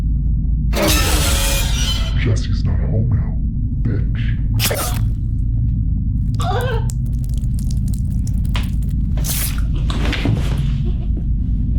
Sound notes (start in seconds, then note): 0.9 jump scare music; 2.2 voice distorted; 4.6 knife stabs; 4.7 Maria gasps; 6.2 blood dripping; 9.4 knife pulls out